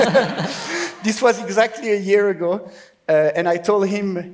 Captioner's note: laughs